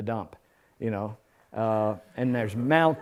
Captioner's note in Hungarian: nevetés